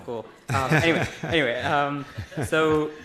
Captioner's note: laughing